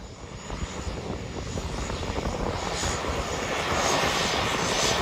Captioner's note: plane engine rumbling